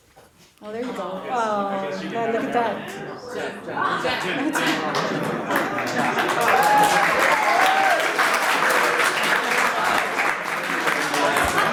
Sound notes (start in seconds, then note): 6.8 audience applauds